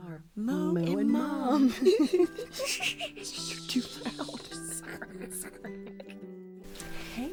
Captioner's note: laughing